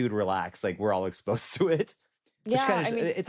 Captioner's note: chuckles